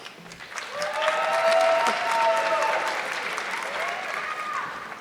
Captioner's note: audience clapping